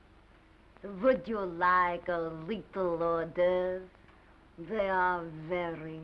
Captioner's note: silly accent